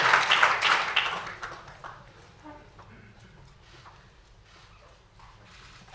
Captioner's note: applause